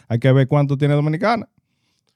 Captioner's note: speaking In Foreign Language